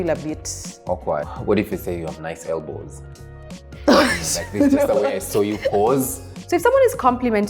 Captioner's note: laughter